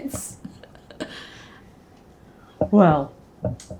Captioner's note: laughing